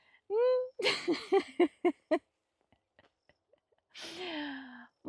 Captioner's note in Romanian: Râsete